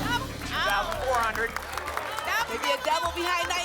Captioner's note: applause